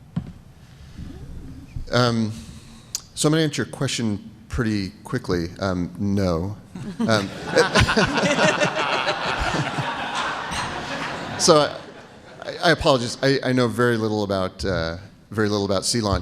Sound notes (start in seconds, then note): 6.8 laughter